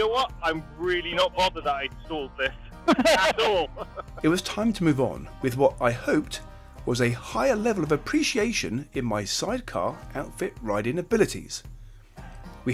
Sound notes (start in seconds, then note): 2.5 all laughing